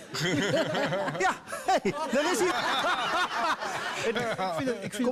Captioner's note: laughter